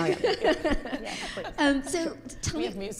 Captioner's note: group laughing